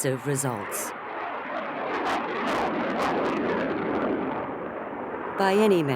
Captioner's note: jet engine